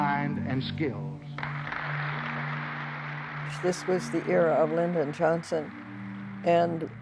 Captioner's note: soundbite of tv show, "the open mind"